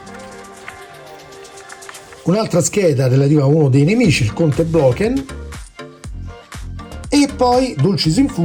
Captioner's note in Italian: Applauso